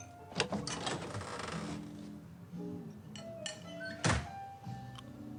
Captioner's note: door opens, closes